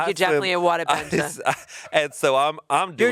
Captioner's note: chuckling